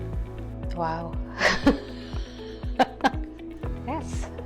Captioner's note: laughing